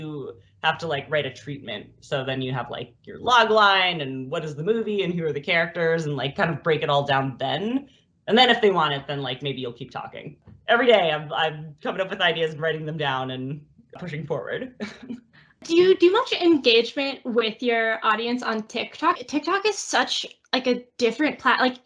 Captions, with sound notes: you have to write a treatment. So then you have your logline and what is the movie and who are the characters and kind of break it all down then. And then if they want it then maybe you'll keep talking. Every day I'm coming up with ideas and writing them down and pushing forward. [laughs]. Do you do much engagement with your audience on TikTok? TikTok is such a different--